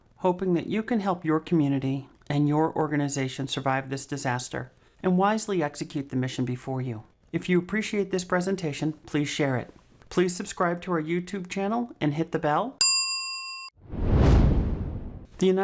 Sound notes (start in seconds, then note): 12.8 bell rings; 13.8 frame whooshes